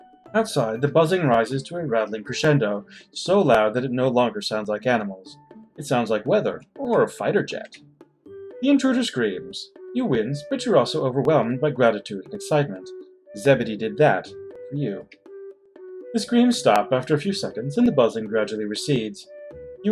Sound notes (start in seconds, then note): none